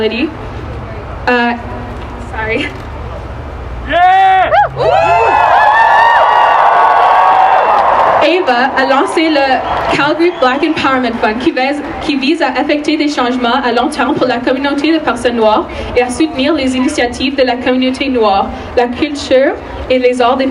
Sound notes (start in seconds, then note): 4.0 cheering and applause